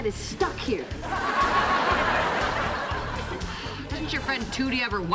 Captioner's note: audience laughing